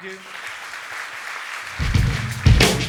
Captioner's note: audience applauding; upbeat music